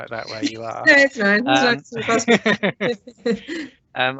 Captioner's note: laughter